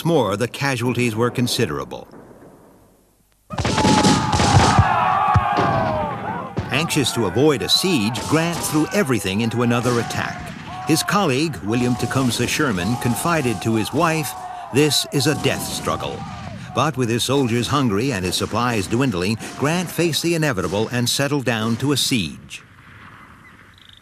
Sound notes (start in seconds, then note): 3.9 guns bang; 3.9 shouting